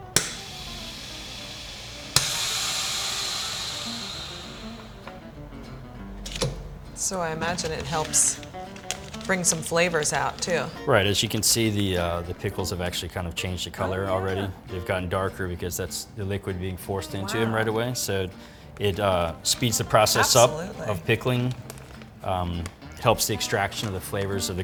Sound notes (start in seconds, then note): 0.3 sealer bag hissing; 0.3 sealer bag popping; 6.0 lid thuds